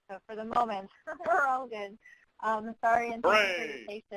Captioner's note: laughs